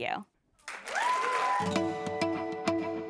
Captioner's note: applause